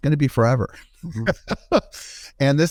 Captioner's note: laughing